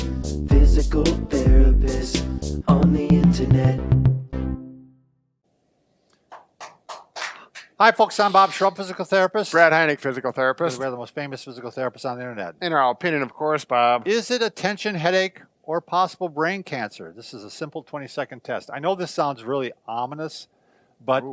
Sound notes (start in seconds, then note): 6.2 clapping